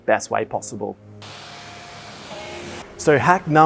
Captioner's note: machine whirring